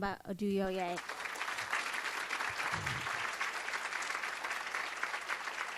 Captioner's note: audience applause